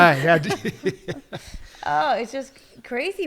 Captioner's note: laughs